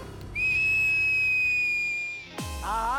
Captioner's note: whistling